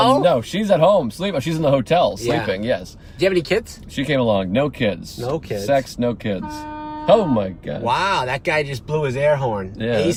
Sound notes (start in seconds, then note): 6.2 car horn beeping